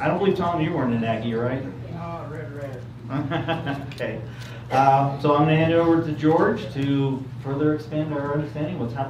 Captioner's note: laughs